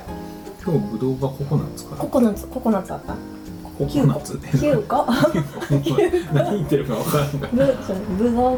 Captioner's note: laughs